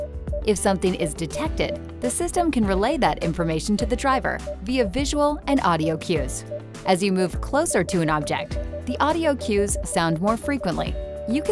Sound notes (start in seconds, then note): 0.1 PDW beeping; 7.4 PDW beeping continues